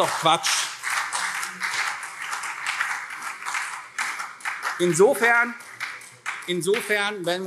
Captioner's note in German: Beifall CDU und SPD